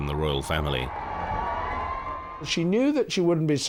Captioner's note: crowd cheering